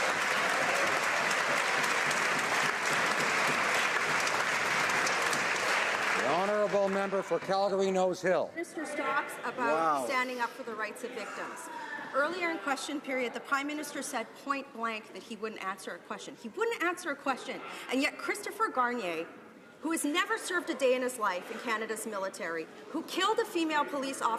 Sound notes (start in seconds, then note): 5.3 some applause